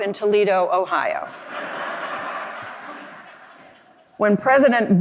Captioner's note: audience laughing